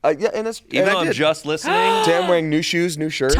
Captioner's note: gasps